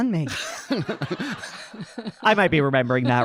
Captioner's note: audience laughing